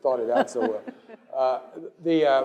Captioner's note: laugh